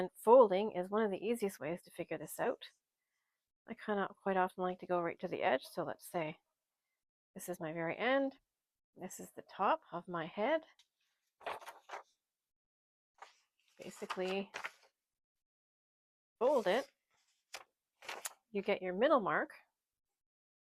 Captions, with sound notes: and folding is one of the easiest ways to figure this out. I kind of quite often like to go right to the edge, so let's say this is my very end. This is the top of my head. (sound of paper folding) Basically, fold it, you get your middle mark.